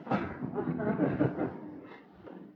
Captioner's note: laughter